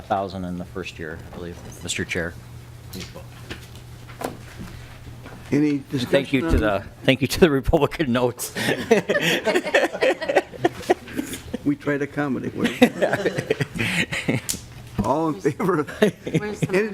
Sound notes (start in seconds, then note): 12.6 laughter